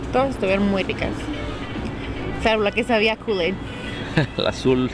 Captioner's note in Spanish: risas